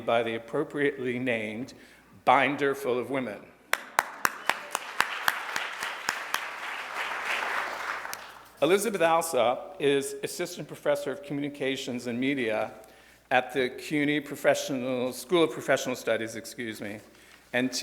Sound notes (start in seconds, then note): 3.7 audience applauds